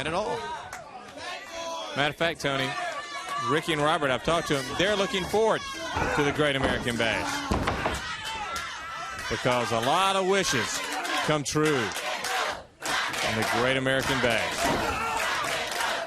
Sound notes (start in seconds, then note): 0.0 crowd chatter; 2.3 crowd chatter; 14.4 crowd cheering